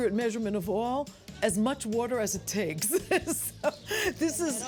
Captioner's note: laughs